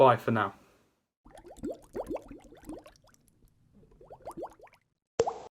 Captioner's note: bubbles popping